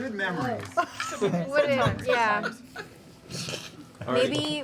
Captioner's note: laughter